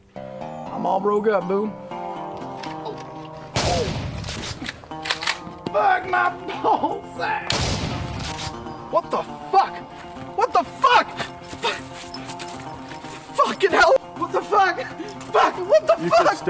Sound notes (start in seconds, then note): 3.5 shotgun BLAST; 4.1 shotgun round racked; 7.5 shotgun blast